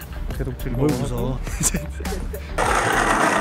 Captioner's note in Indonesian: Ha ha ha ha ha ha ha